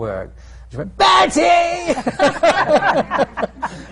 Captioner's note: laughter; screams